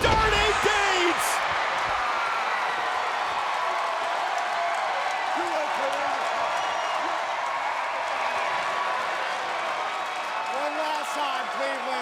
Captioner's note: applause